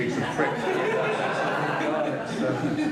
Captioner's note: all laughing